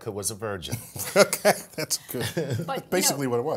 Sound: laugh

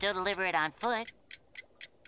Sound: ticking

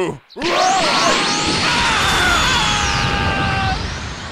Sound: Various Freeza mooks screaming and dying

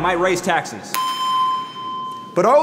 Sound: machine dings

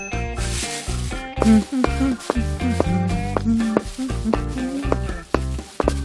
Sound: Charles hums

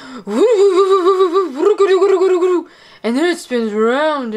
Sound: gurgling

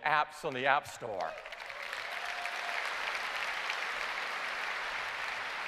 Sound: applause

